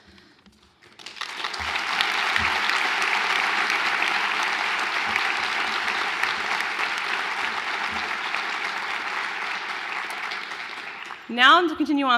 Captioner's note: applause